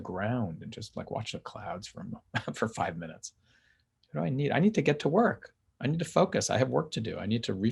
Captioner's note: chuckles